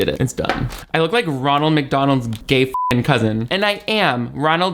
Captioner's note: beep